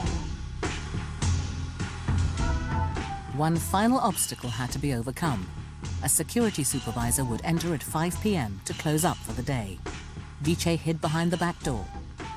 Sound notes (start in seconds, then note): 5.3 voiceover